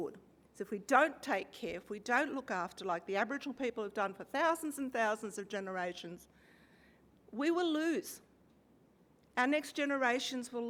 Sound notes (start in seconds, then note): none